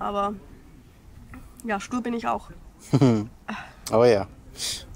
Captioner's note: laughs